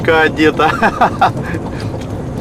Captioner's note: laughing